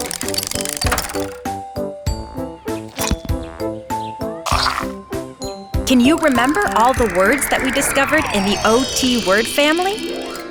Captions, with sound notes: (mechanical whirring) (crunching) Can you remember all the words that we discovered in the O-T word family?